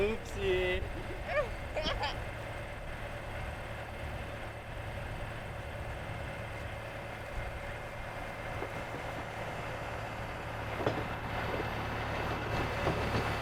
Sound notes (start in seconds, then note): 1.7 still laughing; 2.6 tractor stalling, sound of boxes sliding into place